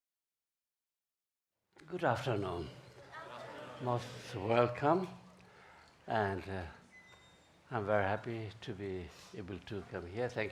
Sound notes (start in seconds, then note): 3.3 crowd